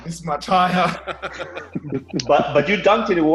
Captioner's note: laughs